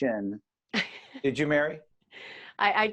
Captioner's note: laughing